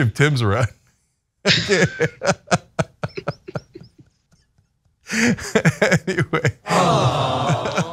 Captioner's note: laugh